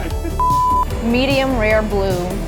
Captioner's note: video beeping